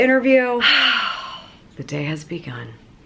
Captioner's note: dramatic exhale